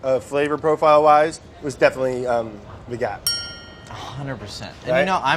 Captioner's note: bell dings